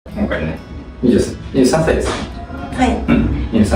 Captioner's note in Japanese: 咳払い